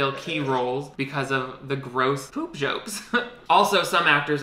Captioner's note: laughs